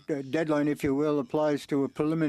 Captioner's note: speaking french